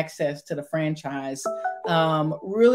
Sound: phone chimes

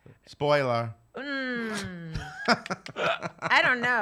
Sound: laughs

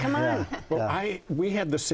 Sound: laughing

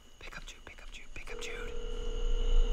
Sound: phone calling

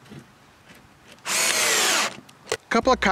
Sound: drilling

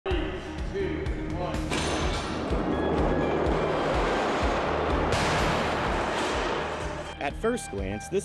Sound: crashing sounds

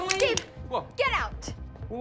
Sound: gun clicks

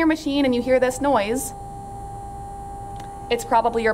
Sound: whirring noise

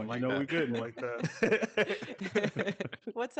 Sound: group laughing

